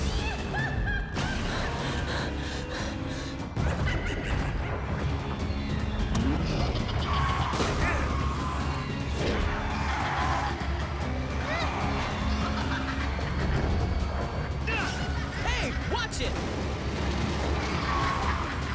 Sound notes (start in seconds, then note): 0.0 clown laughs; 1.5 breathes heavily